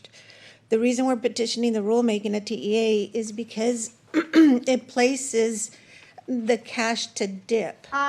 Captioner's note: clears throat and cough